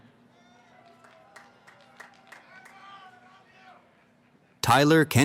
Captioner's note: applause